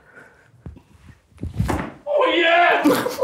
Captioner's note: tennis ball smacks back